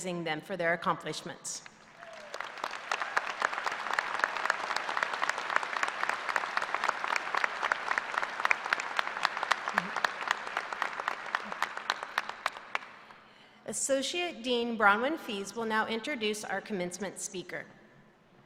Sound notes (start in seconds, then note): 12.3 applause